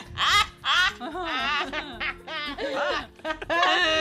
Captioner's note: cackling